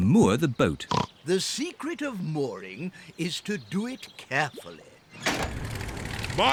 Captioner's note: oinks